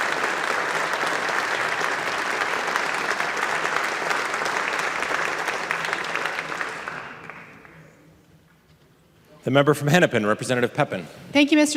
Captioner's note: applause